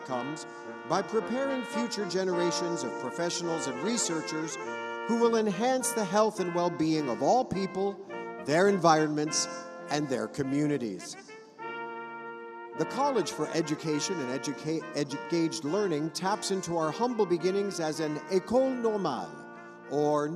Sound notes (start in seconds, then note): none